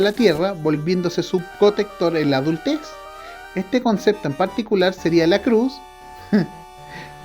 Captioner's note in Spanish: heh